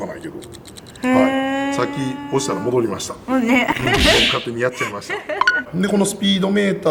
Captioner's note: laughs